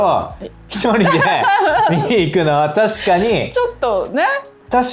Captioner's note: laughs